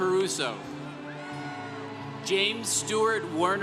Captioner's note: congregation cheering